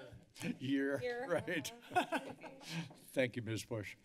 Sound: laughter

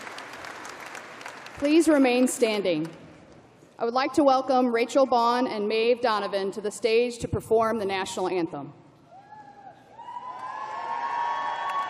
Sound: cheering

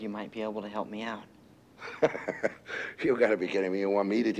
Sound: laughing

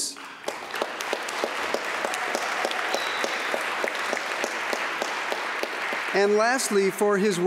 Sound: applause

